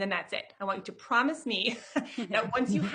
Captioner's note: chuckles